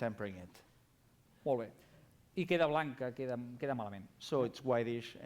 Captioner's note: non-english speech